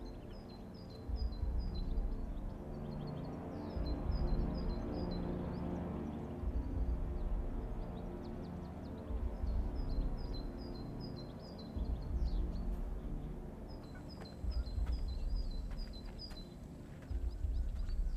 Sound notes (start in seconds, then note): 0.9 birds chirping; 0.9 gentle tense music; 10.9 birds chirping; 10.9 gentle tense music